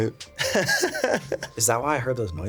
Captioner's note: laughing